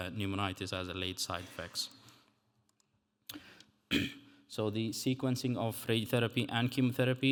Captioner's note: clears throat